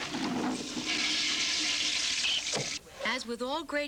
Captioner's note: toilet flushes